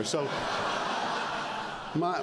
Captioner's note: laughter